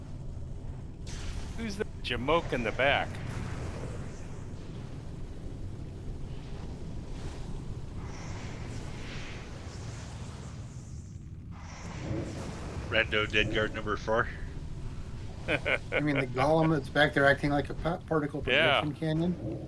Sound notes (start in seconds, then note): 15.4 laughter